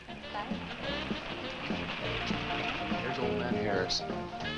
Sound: car approaching

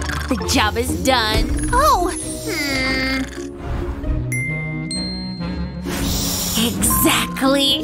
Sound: snoring

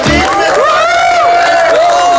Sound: crowd cheering and clapping

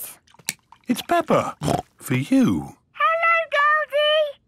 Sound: snorts

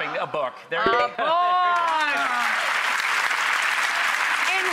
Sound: clapping

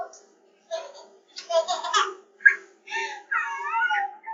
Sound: giggling after being kissed

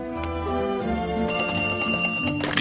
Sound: phone rings

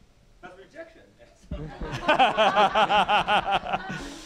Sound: laugher

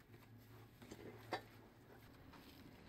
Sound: chair rocks; papers shuffling

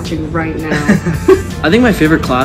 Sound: both laughing

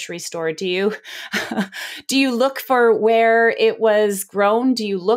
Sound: laughs

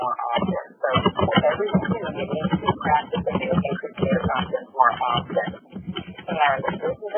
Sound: microphone noises

